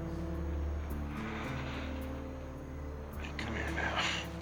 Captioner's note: breath trembling